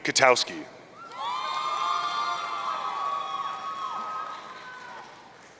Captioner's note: audience cheering